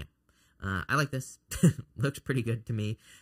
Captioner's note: laughs